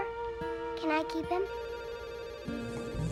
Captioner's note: phone ringing